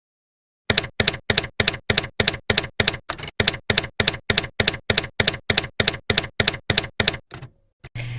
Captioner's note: typewriter keys clacking